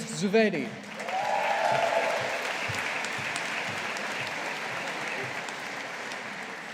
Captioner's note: audience applauding